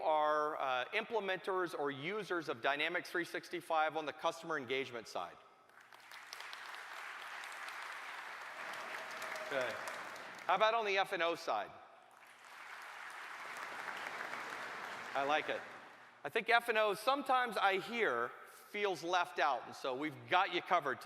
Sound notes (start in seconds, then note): 8.5 applause; 12.1 applause